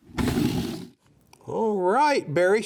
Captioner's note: air whooshes